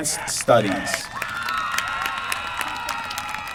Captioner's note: applause